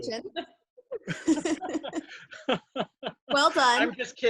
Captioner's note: all laughing